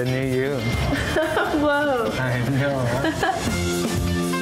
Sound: laughs

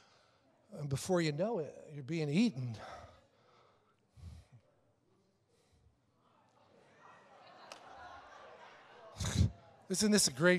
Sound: congregation laughs

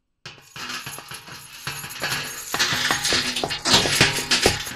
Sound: jangling sounds

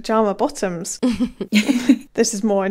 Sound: laughing

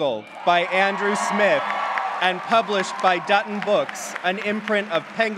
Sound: clapping

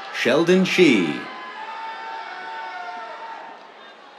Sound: cheers

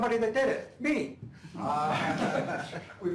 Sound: laughter

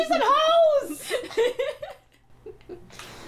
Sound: laughter

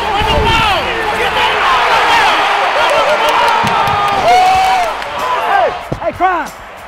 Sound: cheering

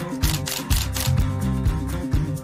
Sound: camera shutter

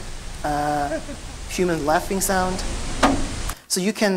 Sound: human laughing

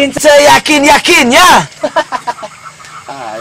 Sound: laughs

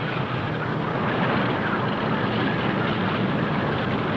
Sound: engine humming

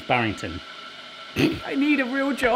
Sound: laughs

